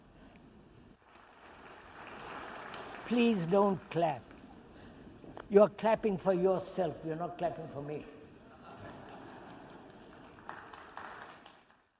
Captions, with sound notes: (clapping) Please don’t clap. You are clapping for yourself, you are not clapping for me. (clapping and laughter).